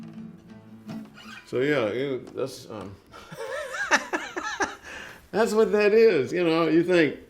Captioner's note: laughs